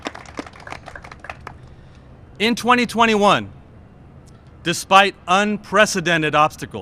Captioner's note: cheers and applause